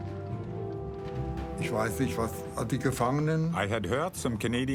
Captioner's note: speaking in foreign language